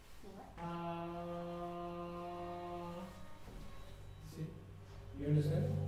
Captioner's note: humming